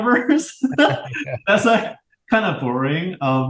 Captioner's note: both laugh